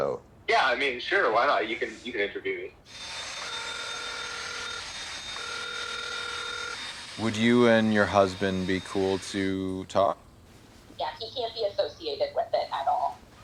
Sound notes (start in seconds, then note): 2.8 line trilling